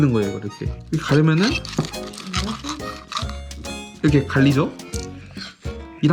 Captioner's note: slapping